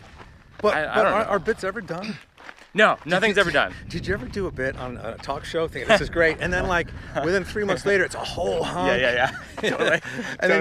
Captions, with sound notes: - But, are bits ever done? - No, nothing's ever done. - Did you ever do a bit on a talk show thinking, this is great, (Mike laughs) and then within three months later, it's a whole hunk. - (laughs) Totally.